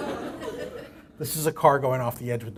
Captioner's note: laughter